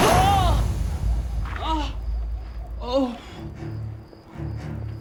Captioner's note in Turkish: İnleme sesi